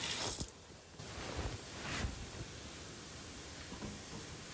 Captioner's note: cloth rustling